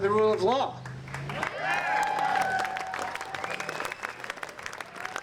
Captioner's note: applause